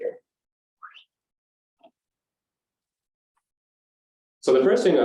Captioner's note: silence